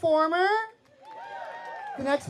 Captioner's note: cheering